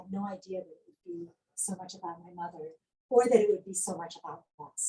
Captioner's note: none